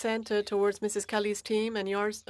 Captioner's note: speaking French